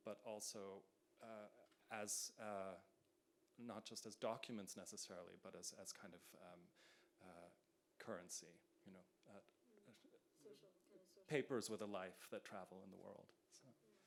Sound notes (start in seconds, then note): none